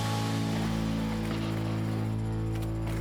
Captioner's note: bike crashing